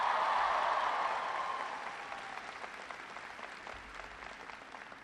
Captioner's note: applause